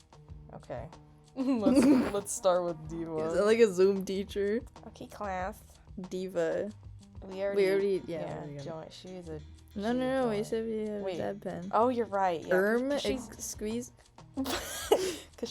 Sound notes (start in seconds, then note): 1.4 laughing; 4.3 weird accent; 14.4 laughing